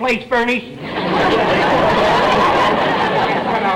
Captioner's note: audience laughter